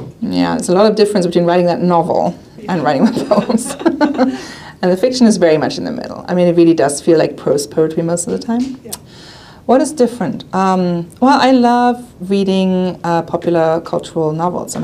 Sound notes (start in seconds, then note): 2.9 all laughing